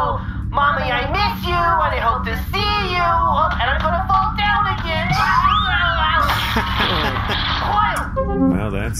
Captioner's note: screams